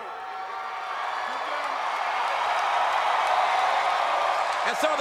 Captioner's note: audience cheering